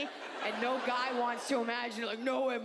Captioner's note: audience laughs